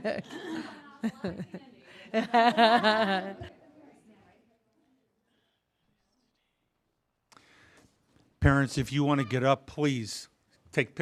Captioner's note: laughter